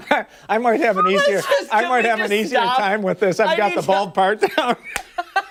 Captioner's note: laughter